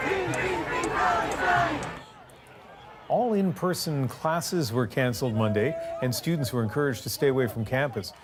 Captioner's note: chanting